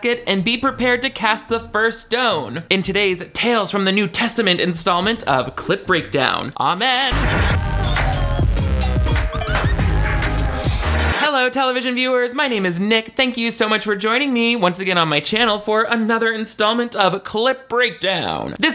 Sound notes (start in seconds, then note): 6.7 upbeat music; 10.7 static crackling